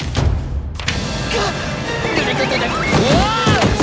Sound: gasps

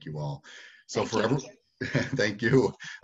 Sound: group chattering

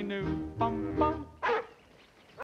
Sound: dog barking

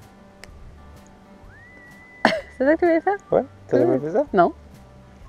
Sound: in french

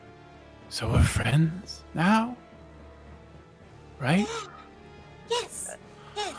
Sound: gasps

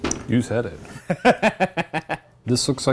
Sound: Ryan laughs

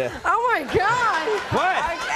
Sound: audience laughs

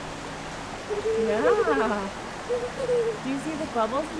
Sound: giggling

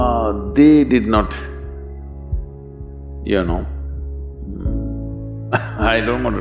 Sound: laughs

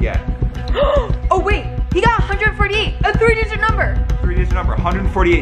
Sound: gasps

